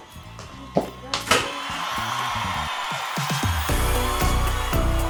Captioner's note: audience cheers; upbeat music begins